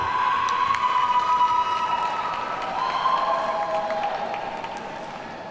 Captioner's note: audience cheers and applauds